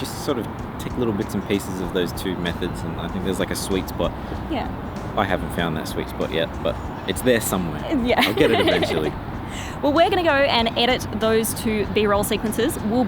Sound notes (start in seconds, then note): 8.1 laughs